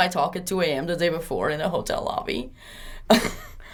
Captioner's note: laughs